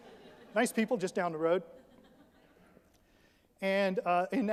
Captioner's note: audience laughs